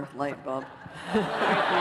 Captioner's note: laughter